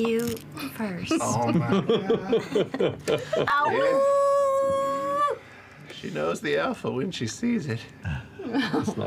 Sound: giggle; awoos

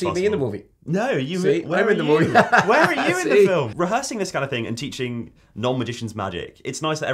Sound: laughs

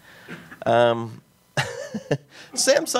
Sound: laughs

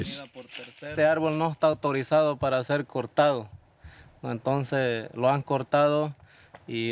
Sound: speaking in foreign language

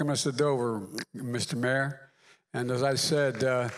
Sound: applause

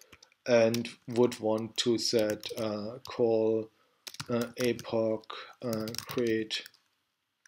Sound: typing

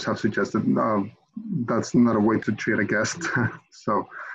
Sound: giggles

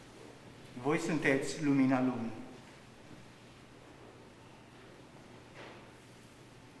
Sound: man speaking in Romanian

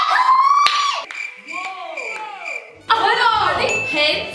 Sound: crickets chirping

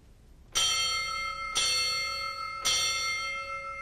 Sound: bell ringing

